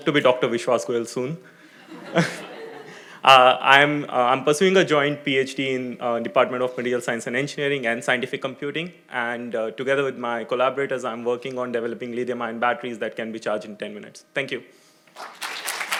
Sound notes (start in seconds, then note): 1.7 audience laughing